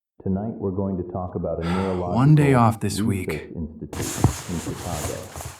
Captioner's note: SFX: Blankets rustling